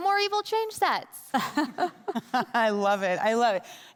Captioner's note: group laughing